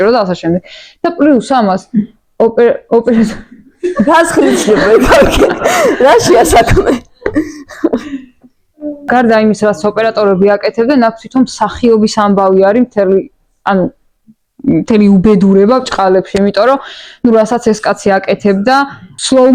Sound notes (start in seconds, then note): 3.7 giggle